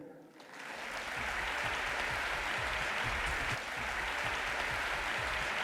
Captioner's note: audience applauding